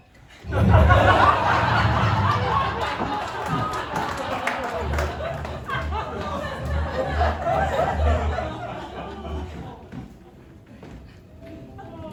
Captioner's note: universe shifting sound; ragtime piano